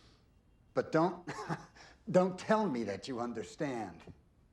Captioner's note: chuckles